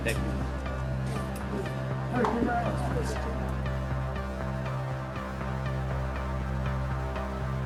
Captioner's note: tense dramatic music; muffled chatter